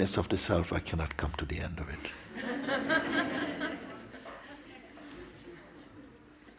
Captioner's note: laughter